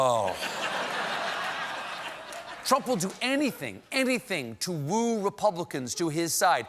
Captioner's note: laughter